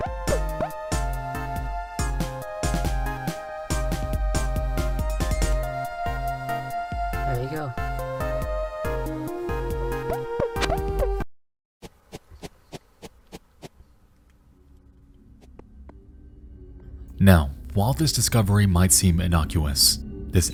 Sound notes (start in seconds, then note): 5.2 lighthearted music continues; 11.8 shuffling sound; 14.5 ominous music